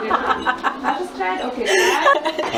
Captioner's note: laughing